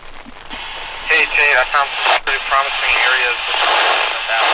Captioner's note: on Radio